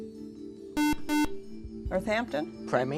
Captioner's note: buzzer